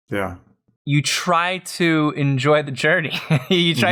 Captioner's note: laughter